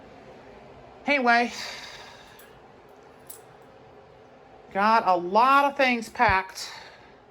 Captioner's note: none